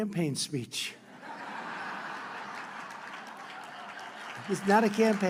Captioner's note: laughter and applause